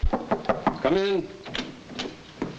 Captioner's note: knocking at door